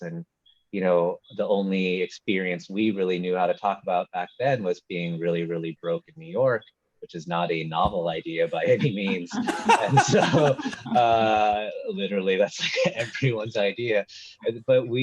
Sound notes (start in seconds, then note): 8.6 laughing